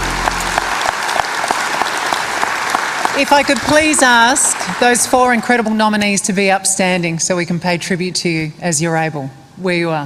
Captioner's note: applause